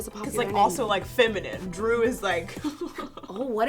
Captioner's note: laughs